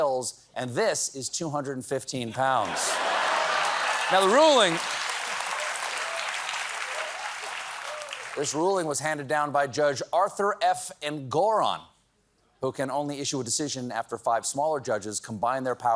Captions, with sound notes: WINDMILLS KILL WHALES, THIS IS 215 POUNDS. THE RULING... [APPLAUSE] THIS RULING WAS HANDED DOWN BY JUDGE ARTHUR F ANGORAN WHO CAN